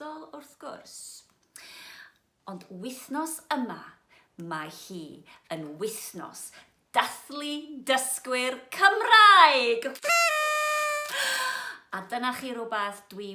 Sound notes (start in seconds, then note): 10.0 party blower noise